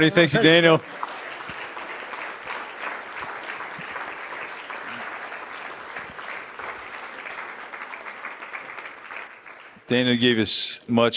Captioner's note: applause